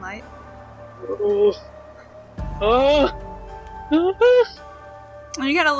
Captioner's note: concerned noises